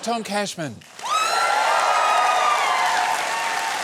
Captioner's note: cheering and applause